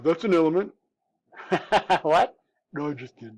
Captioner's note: chuckles